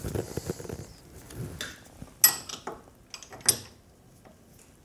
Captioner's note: metallic sounds